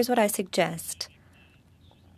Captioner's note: speaking French